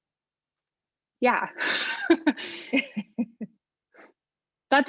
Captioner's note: laughter